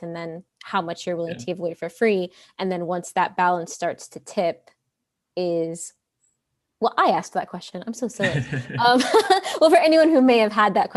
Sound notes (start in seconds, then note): 8.2 laughs